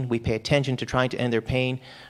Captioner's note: none